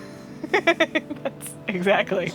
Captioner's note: laughing